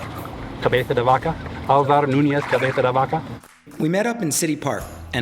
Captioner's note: speaks in foreign language